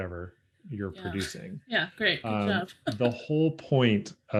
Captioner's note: chuckles